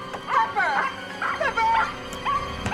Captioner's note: dog barking